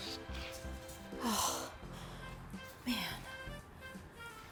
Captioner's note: sighs